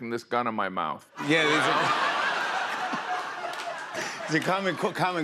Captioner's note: laughter